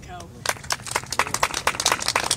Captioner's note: applause